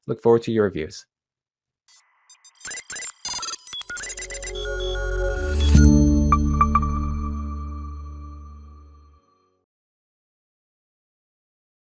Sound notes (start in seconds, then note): 2.2 logo beeping; 3.9 soft electronic music